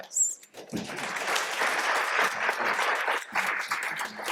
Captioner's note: applause